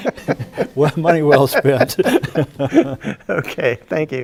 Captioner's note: both laugh